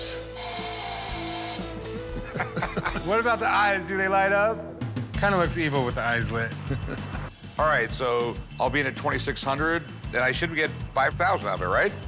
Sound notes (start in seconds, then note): 0.0 screeching; 2.1 chuckling